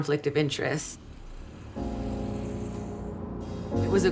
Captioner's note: car engine rumbling